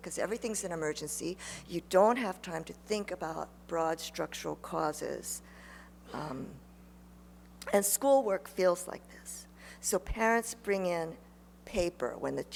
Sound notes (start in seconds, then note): none